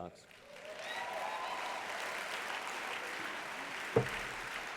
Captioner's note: applause